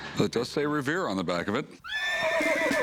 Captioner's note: horse neighs